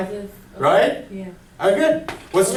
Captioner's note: voiceover